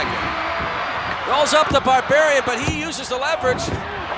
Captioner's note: applause